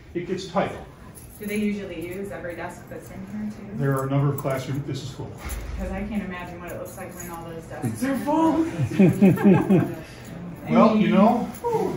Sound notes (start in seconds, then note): 8.6 chuckles